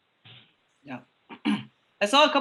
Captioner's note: clears throat